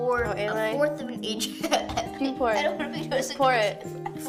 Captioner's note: laughs